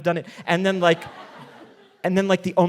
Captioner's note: audience laughing